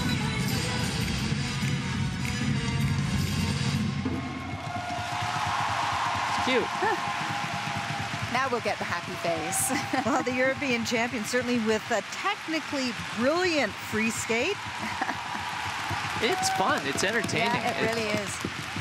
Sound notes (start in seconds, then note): 11.9 cheers and applause